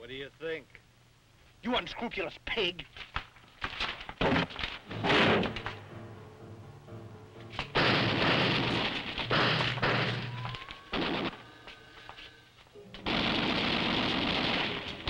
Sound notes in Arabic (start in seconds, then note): 4.9 تحطم الباب; 7.7 إطلاق النار بالبنادق